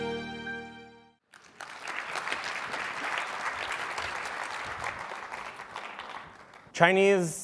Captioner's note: applause